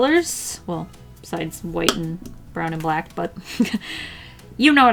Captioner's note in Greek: χαχανητά